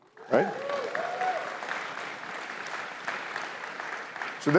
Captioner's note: cheering